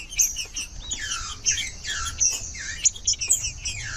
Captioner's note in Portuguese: trinca ferro cantando